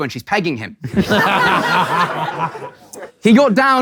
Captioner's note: people in room laughing